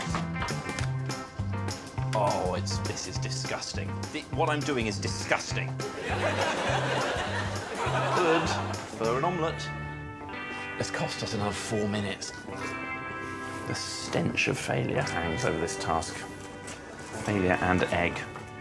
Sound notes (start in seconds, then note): 7.7 audience laughing